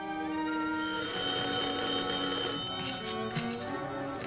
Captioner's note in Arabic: يرن الهاتف